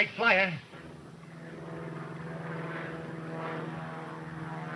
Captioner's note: plane engine rumbling